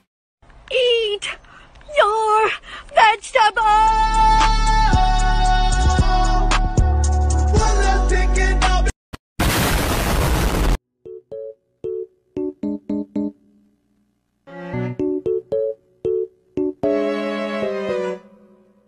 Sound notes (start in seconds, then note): 9.4 explodes